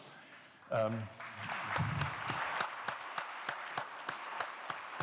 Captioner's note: applause